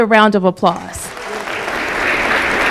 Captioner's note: applause